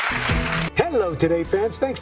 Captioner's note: applause